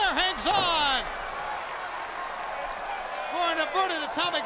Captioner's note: crowd cheering